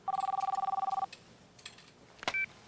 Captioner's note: phone ringing